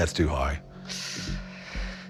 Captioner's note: inhales sharply